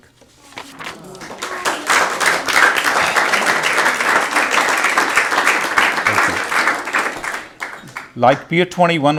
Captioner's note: applause